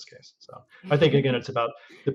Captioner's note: laughs; chuckles